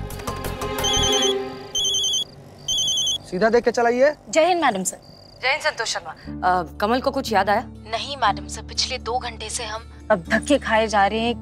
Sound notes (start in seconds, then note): 0.8 phone ringing